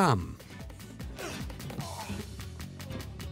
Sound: groaning

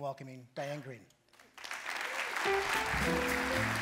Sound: applause; jazz music

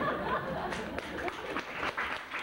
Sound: laughter; applause

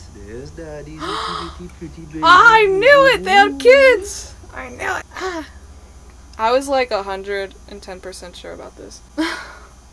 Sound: gasps; sighs

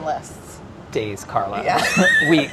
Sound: laughs

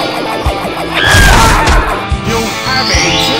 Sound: screams

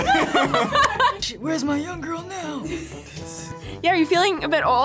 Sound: both laugh; raspy

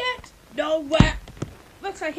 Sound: closes lid

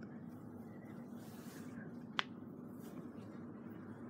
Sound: joint cracks

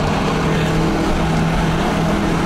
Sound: none

